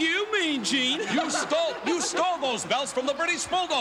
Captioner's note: Hart Foundation laughs